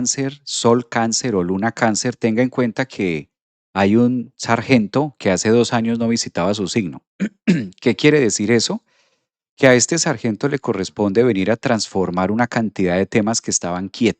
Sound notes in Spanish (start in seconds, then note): 7.2 carraspeo